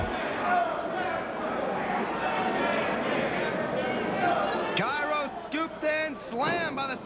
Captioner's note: crowd chatter